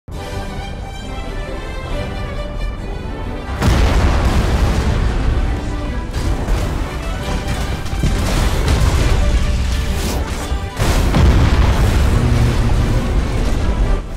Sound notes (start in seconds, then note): 0.1 cheery Christmas tune; 5.7 punchy artillery fire; 10.7 blam; 11.0 cheery Christmas tune